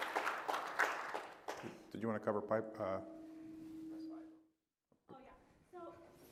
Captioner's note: applause